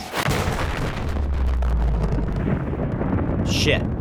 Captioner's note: ship explodes